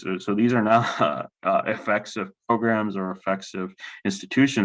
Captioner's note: laughs